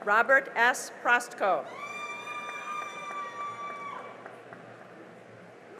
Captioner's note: cheering and applause